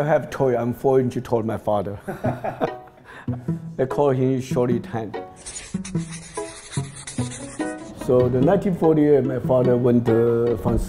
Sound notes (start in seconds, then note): 2.1 laughing